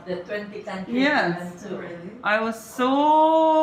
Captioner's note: chatter